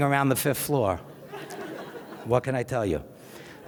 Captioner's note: audience laughs